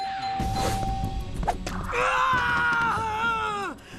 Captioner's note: eva screaming